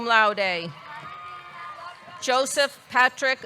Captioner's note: audience cheering